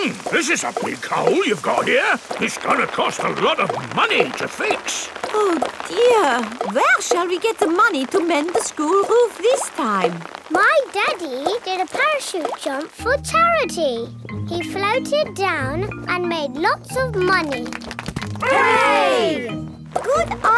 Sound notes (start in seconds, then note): 17.2 crowd applauding